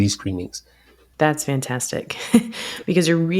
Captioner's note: chuckles